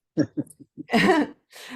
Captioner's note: laughs